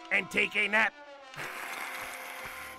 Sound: hissing

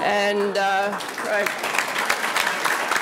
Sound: audience applauding

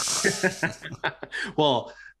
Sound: both laughing

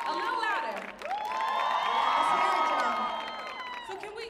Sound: audience cheering

